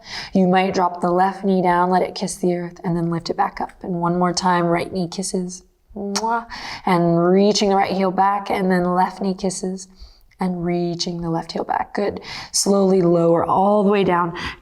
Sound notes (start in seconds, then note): 6.1 kiss imitating